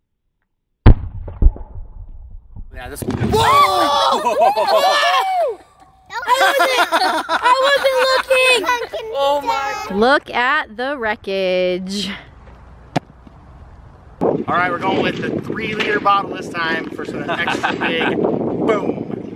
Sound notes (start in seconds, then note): 0.8 exploding; 6.1 laughing